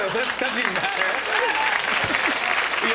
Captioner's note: cheers and applause